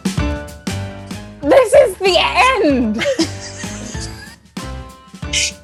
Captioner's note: all laugh